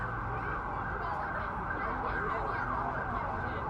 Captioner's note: sirens whirring